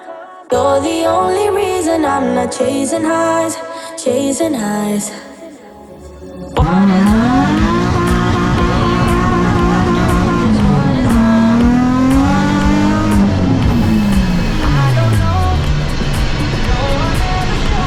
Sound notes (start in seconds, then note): 6.6 350z drift sound & music playing